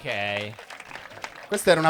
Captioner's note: applausi